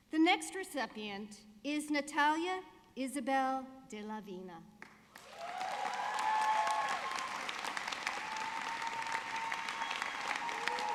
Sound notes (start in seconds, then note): 4.8 audience clapping